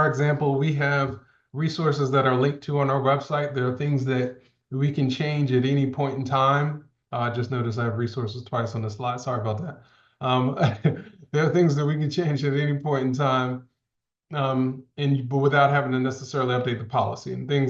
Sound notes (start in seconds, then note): 10.3 laughs